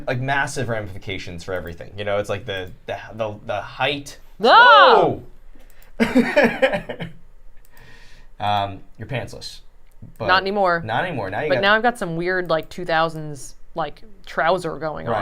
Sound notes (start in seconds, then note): 4.0 both shouting